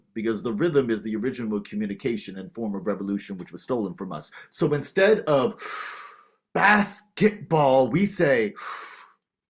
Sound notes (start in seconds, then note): 5.7 inhales deeply; 8.3 beatboxing